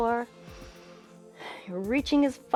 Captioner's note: inhales and exhales